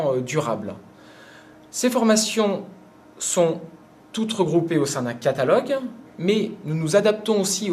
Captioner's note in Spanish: francés